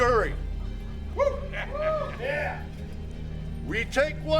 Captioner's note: gang cheering